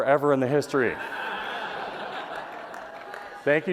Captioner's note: laughter